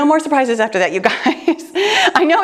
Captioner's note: chuckles